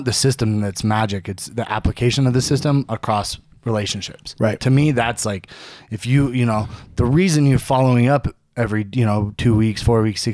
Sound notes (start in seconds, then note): none